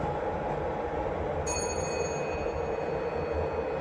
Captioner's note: chime